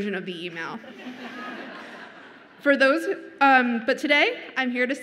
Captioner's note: audience laughs